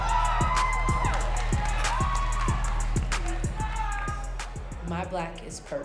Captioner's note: audience cheering